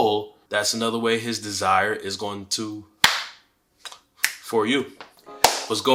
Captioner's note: claps